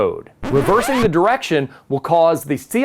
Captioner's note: record scratches